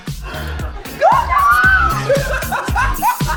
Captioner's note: laughter